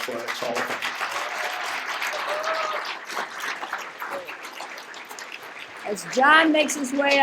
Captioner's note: applause